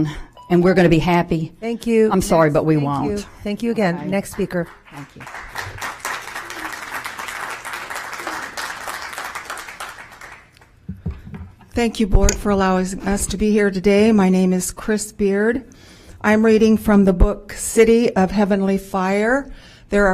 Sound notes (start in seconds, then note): 10.8 applause